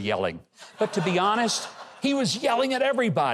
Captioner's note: crowd laughs